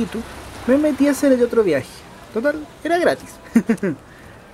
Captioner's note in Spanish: risas